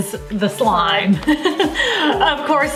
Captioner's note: laughing